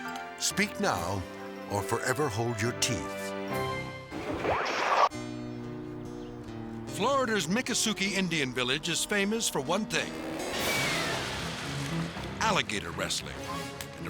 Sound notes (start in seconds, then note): 4.2 slides swooshing; 9.7 dramatic music